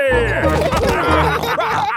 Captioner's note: all laughing